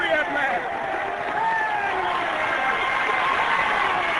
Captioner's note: cheering